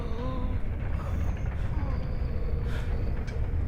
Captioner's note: faint wheezing